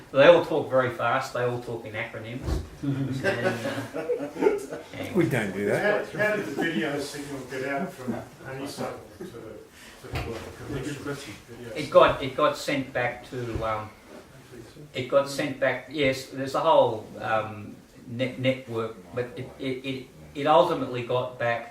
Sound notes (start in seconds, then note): 3.0 laughter